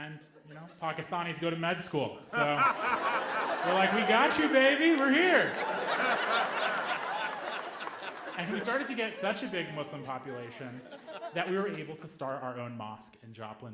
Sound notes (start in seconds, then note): 6.3 audience laughing